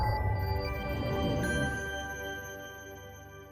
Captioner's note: light chiming